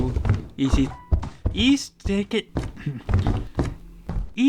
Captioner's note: fumbling words